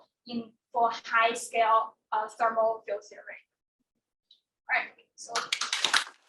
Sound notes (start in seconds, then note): 5.3 attendees clapping